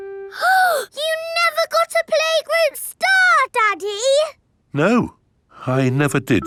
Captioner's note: gasps